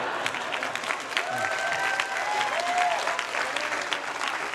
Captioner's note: cheering; laughter